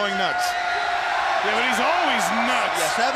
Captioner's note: crowd cheering